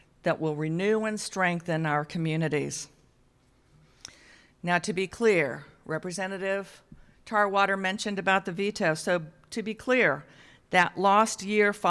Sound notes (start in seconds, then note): none